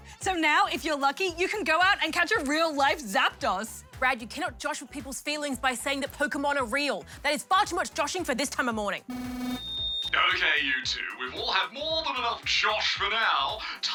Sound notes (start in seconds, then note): 9.1 microphone feedback